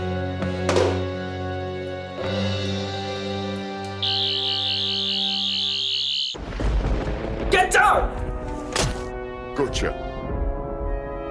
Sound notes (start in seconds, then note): 3.9 buzzing; 6.3 thunder sounds